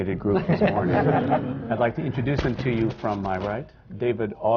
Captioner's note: laughter